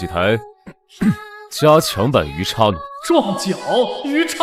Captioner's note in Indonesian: batuk